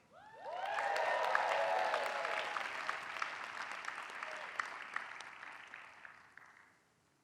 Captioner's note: applause